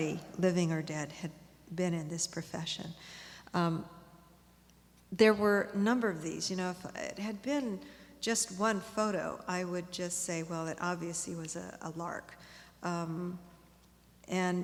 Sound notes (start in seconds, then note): none